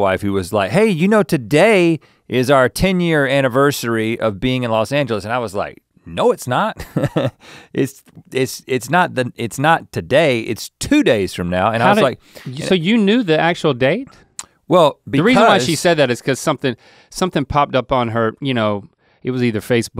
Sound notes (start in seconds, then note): 7.6 laughs